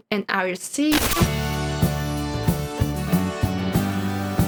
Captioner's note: glitch